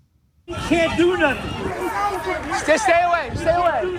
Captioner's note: shouting